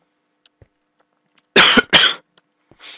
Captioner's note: coughing